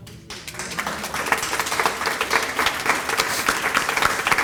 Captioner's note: audience applauding